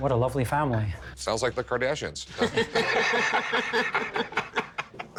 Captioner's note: laughter